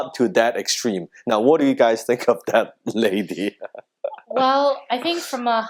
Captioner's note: laughs